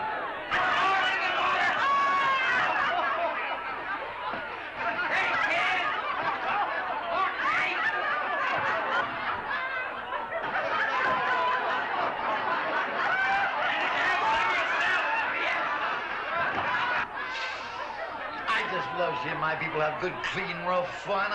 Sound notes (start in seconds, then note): 0.0 crowd laughs; 2.3 crowd laughs & banters